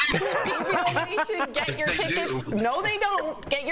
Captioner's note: laughter